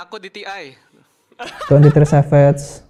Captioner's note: laughter